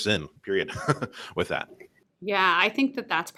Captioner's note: laughter